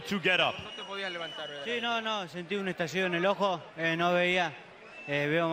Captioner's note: speaking Spanish